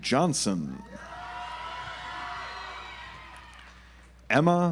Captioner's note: audience applauds